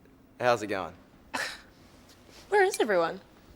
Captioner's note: sighs